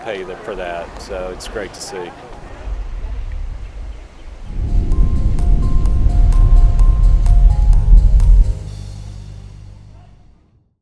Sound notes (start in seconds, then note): 4.2 birds chirping